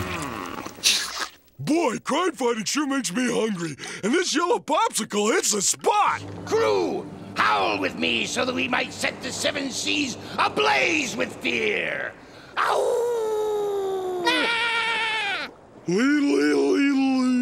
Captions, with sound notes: Boy, crime fighting sure makes me hungry, and this yellow popsicle hits the spot! Crew, howl with me so that we might set the Seven Seas ablaze with fear! [howls] [screams weakly] Leedle-leedle-leedle-lee!